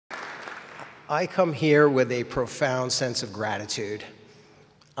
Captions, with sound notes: (audience applauds) - I come here with a profound sense of gratitude.